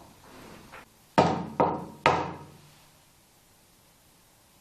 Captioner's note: knocking